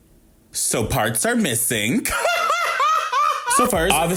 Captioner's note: laughs